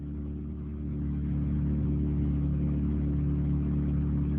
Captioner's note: car engine roaring